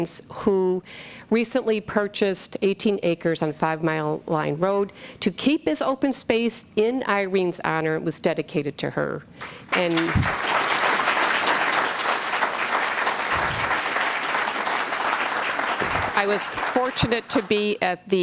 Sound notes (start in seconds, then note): 12.6 applause